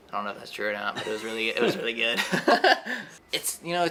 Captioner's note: laughs